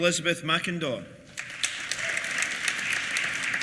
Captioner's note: applause